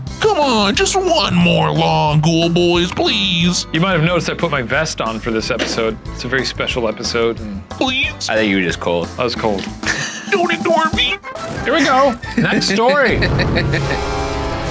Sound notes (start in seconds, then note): 11.6 laughing